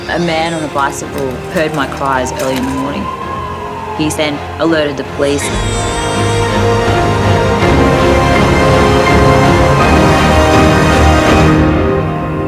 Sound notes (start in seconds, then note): 0.1 baby crying; 3.3 police siren blaring; 5.5 baby crying; 6.5 intense instrumental music